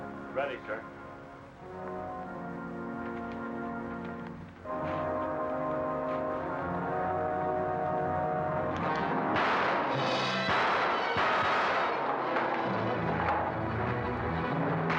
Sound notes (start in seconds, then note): 1.6 ominous music; 8.8 gun firing; 12.1 dramatic music; 14.8 gunfire